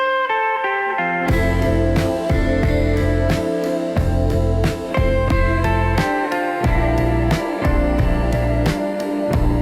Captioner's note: recorded voice—faint